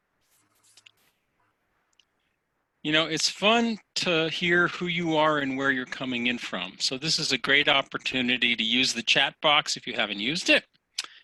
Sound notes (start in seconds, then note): 0.6 computer blips